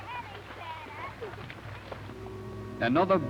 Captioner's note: motor vehicle rumble